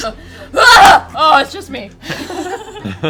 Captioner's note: panicked yelling